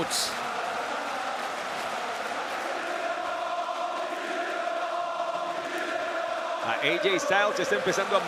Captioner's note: applause